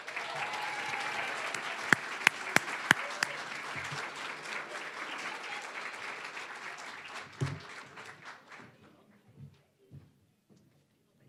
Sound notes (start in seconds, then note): 0.0 applause, cheering; 5.1 applause